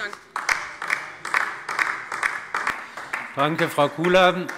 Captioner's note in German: Beifall DIE LINKE